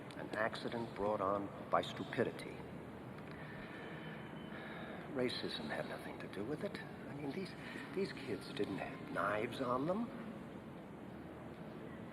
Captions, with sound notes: An accident brought on by stupidity. (sighs) Racism had nothing to do with it. I mean, these- these kids didn't have knives on them,